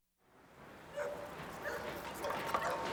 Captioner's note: dog barking